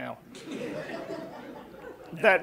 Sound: audience laughing

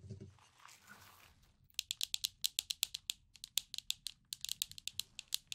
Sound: clacking

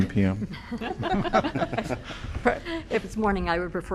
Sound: laughter

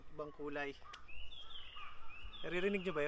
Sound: bird chirping

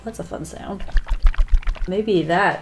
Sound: liquid shaking

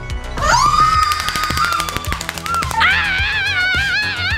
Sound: upbeat music; screaming

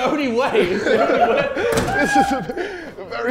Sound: Sidemen laughing

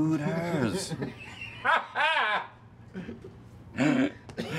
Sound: everyone laughing

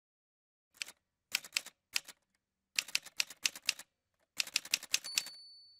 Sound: typewriter sounds

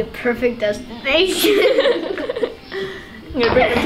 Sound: laughing

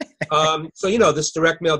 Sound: laughing

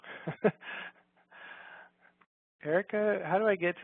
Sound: laughs

